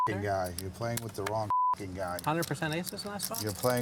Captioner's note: beep